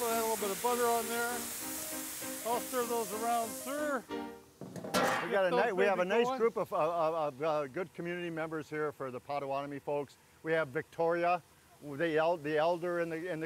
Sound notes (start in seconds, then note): 2.3 old-time piano music; 4.6 metal clanking